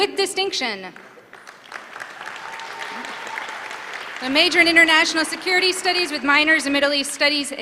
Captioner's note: applause